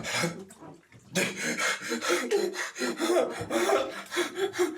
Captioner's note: Aiden whimpering